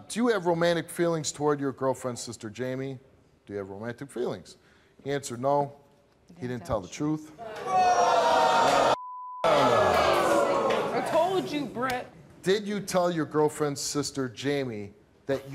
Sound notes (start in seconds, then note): 7.7 audience jeers; 8.9 beep